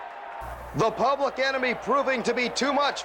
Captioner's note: crowd cheering